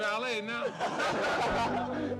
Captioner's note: laughter